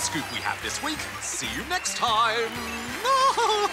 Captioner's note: applause